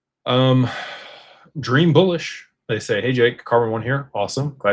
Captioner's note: sighs and gasps